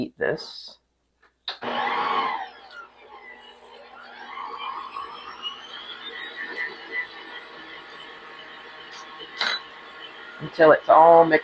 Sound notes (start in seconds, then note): 3.8 mixer blending